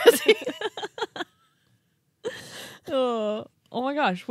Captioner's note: laughing